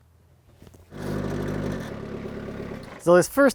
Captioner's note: skid steer engine roaring